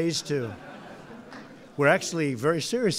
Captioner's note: laughter